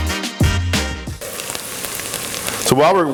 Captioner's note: sizzling